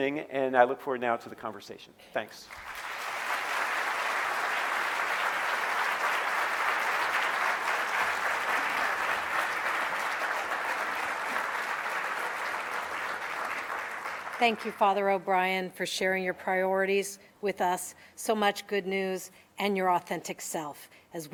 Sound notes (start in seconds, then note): 3.2 audience clapping